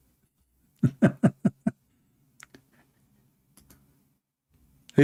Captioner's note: Ketawa